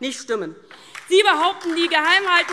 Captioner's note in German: Beifall DIE LINKE und SPD